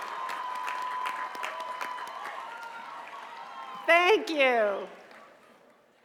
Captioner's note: cheers and applause